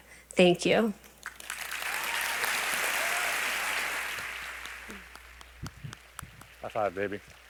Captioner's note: applause